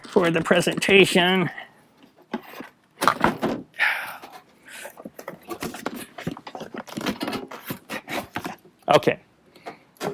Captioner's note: fumbling